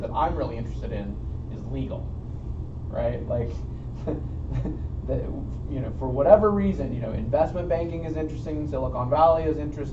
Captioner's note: chuckle